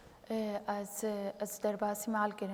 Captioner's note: speaking kurdish